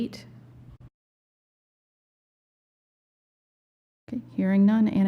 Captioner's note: silence